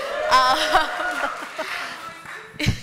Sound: applause; laughter

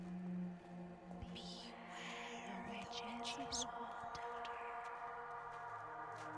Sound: ghostly Voice

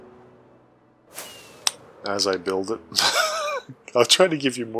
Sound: laughs

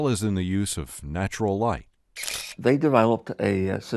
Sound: shutters clicking

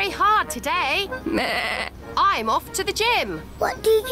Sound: bleats

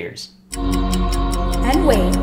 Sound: clock ticking; ethereal music

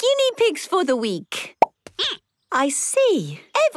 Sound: squeaking

